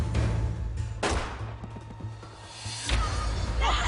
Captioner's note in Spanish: Detonación de disparo